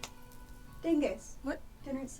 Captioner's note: snaps fingers